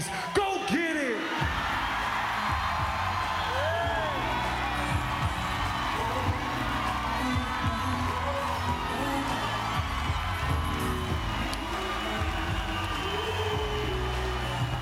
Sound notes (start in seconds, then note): 3.5 applause